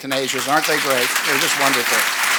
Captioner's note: audience applauds